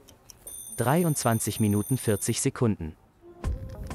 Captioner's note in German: Eieruhrklingeln